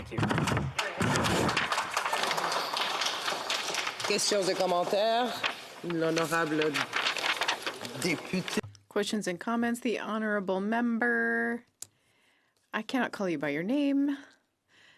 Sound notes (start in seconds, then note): 5.7 some applause; 12.2 speaking French